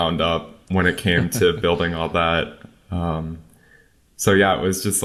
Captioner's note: laughs